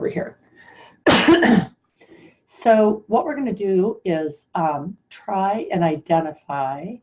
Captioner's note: coughs